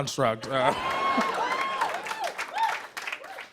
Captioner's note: cheers and applause